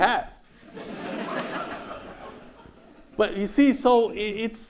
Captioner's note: audience laughs